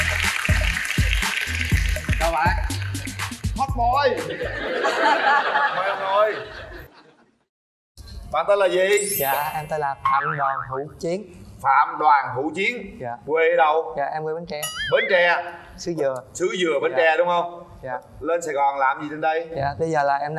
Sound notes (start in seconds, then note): 0.0 applause; 4.1 laughter